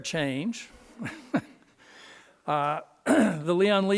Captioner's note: laughing